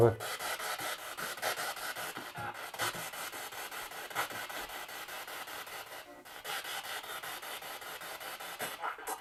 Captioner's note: noise of the spiritbox in the background